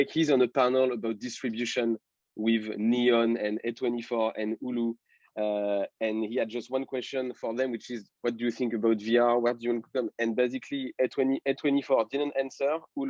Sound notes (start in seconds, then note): 9.7 voice muffling